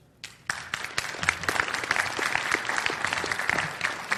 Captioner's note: audience clapping